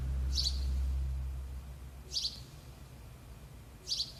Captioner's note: birds chirping